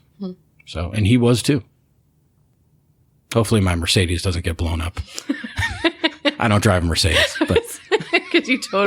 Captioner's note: laughter